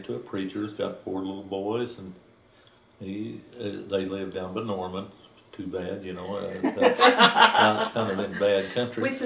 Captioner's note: laughter